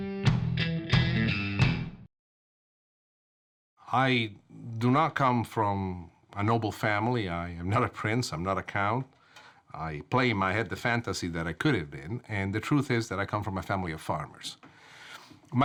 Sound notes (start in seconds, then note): none